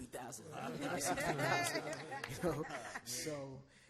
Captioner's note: all laugh